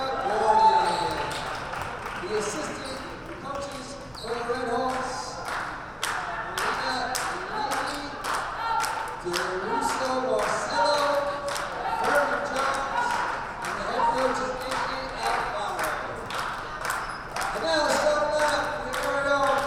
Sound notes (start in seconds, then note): 0.1 crowd cheers and applauds; 6.3 announcer drowned out by rhythmic crowd clapping